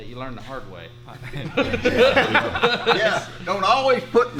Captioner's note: laughs loudly